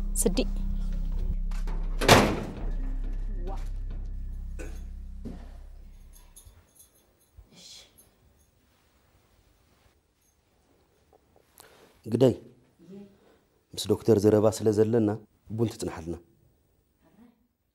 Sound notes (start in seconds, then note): 1.6 gate slams shut